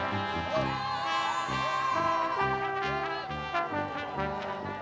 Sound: applause

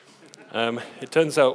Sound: audience laughs

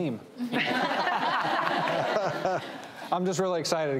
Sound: audience laughing

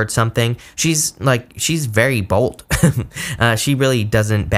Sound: chuckles

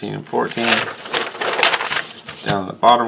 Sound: paper rustles

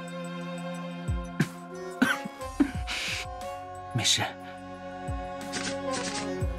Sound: coughs

